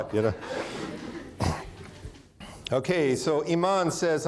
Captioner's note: audience laughing